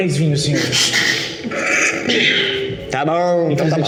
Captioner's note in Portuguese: risos